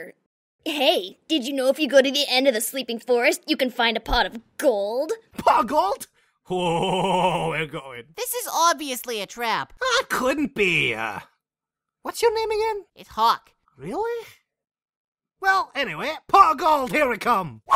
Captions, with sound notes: Hey, did you know if you go to the end of the sleeping forest, you can find a pot of gold? Pot of Gold *orgasm* We're going. his is obviously a trap. It couldn't be. ummm.. What's your name again? It's hawk really.... Well anyway pot of gold. here we come